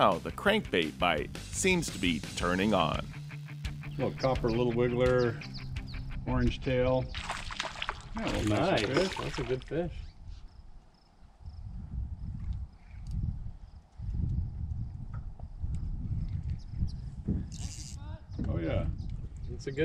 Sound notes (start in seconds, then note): 7.1 fish splashing; 12.5 crickets chirping; 17.5 reel spinning